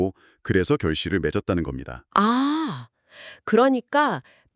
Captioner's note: gasp